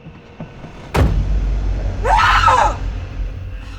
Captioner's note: suspenseful music; car door slams; screams; crickets chirping